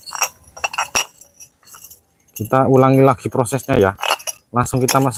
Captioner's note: bottle sound